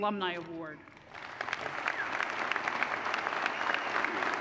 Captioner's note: applause